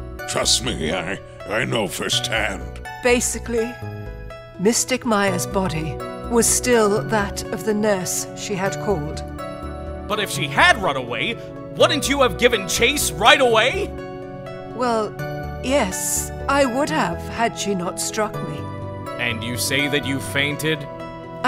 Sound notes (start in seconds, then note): none